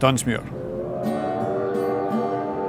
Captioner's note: train whistle blows